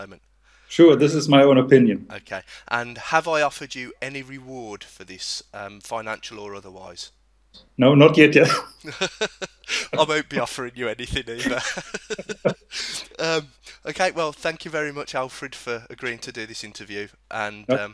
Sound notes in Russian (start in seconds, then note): 8.4 Оба смеются над шуткой; 8.4 Смеясь; 11.0 Оба смеются над такой-же смешной шуткой